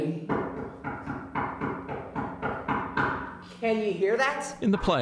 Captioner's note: knocking